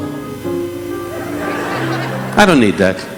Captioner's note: audience laughing